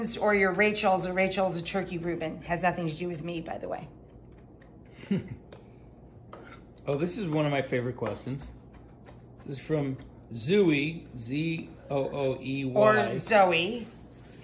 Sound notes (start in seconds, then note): 4.9 chuckling